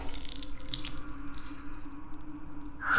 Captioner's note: blood dripping; screeching